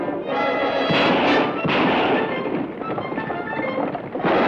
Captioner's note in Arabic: اطلاق نار